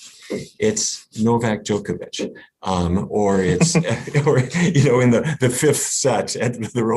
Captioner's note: laughs